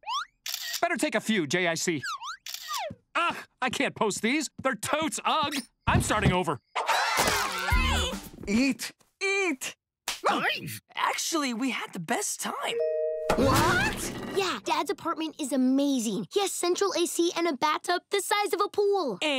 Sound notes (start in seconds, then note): 7.0 complaining